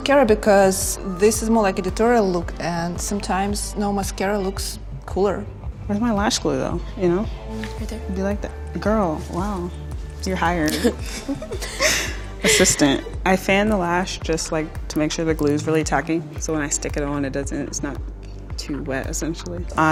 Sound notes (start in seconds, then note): 10.6 both laughing